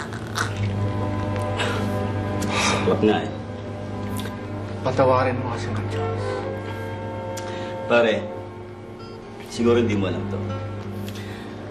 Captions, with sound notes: [mellow music playing] [exhales] It's tragic, really. May he rest in peace. Buddy, maybe you don't know this.